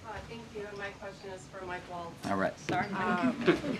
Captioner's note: laughter